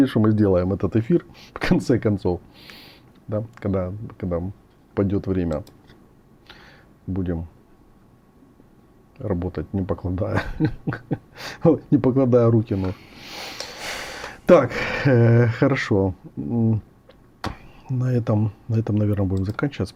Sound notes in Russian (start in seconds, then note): 10.3 смех; 12.9 тяжело вздыхает; 13.2 вздыхает